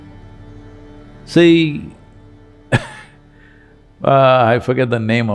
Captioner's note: laughs